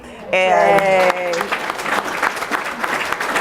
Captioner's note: applause